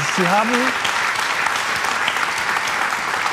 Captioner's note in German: Applaus